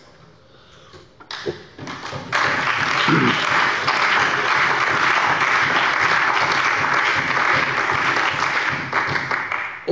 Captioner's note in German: Beifall bei der CDU und dem BÜNDNIS 90/DIE GRÜNEN